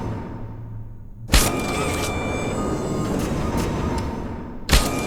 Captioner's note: gun fires; gun fires